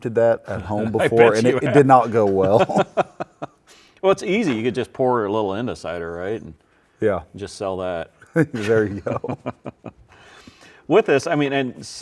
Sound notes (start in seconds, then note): 2.3 laughs; 8.4 both laughing